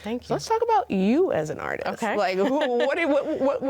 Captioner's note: laughs